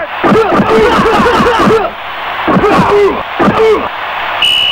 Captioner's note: ingame sounds